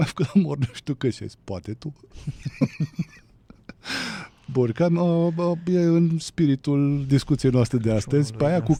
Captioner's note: laughter